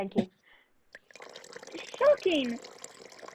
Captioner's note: tea pouring